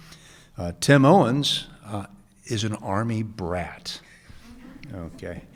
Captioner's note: audience chuckles